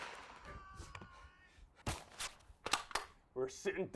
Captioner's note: gun fires; more screaming